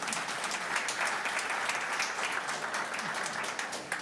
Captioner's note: applause